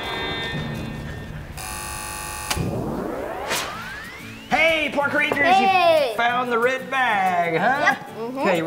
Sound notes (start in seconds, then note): 1.5 buzzing; 1.5 whirring